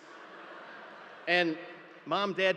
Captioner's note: audience laughing